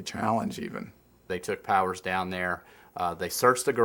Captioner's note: voiceover